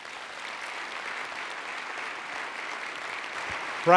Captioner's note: applause